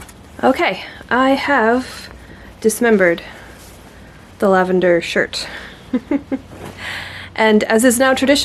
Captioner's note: giggles